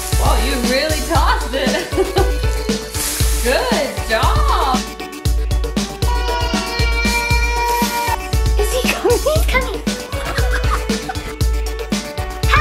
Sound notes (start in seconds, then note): 0.0 griddle sizzles; 1.3 laughs; 3.1 griddle sizzles; 6.0 exclaiming; 7.8 griddle sizzles; 10.0 laughs